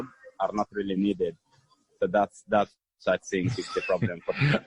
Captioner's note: laughter